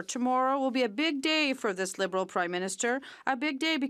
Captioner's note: speaking French